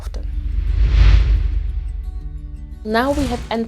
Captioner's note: air whooshing